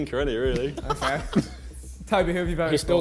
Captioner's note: men laughing